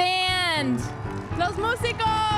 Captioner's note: audience applauds; speaking in Spanish